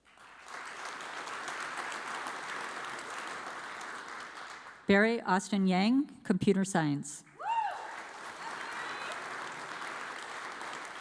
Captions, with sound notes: (audience applauds) Barry Austen Yang, Computer Science. (audience applauds)